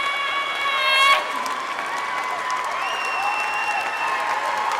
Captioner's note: audience applauding